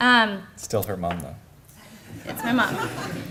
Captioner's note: laughter